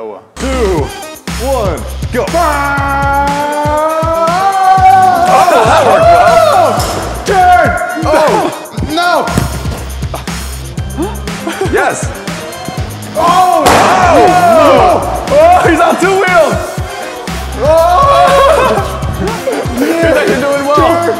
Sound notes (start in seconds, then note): 9.7 laughter; 13.6 pop!